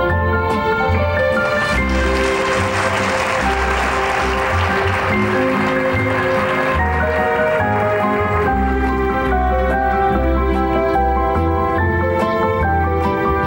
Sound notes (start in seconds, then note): 1.2 audience applauding